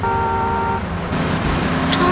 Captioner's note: car honking